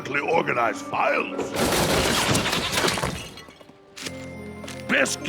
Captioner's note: clatter!